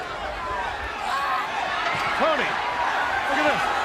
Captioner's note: crowd chatter